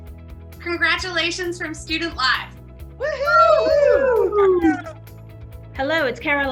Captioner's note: group cheering